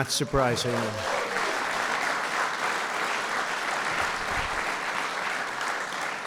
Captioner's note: applause